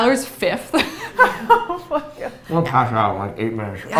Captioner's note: laughs